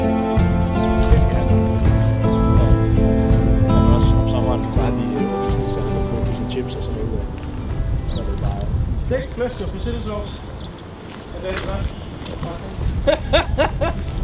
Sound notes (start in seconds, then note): 0.1 distant chatter; 12.9 hahaha